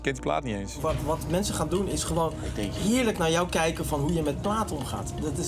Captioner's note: speaking in foreign language